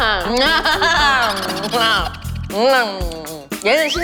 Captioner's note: laughter